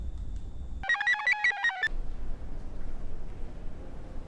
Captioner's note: computer chirps